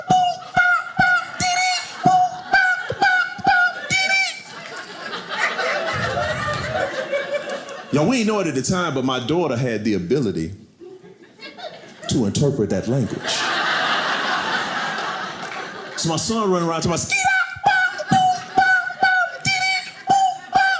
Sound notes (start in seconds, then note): 5.2 audience laughing; 13.0 audience laughing